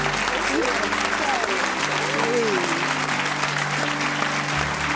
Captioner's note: audience applauds